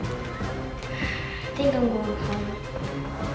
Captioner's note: sighs